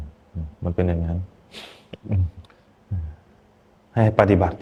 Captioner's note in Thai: เสียงสูดหายใจ